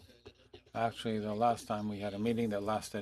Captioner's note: speaking FRENCH